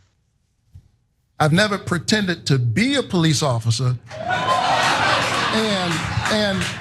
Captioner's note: applause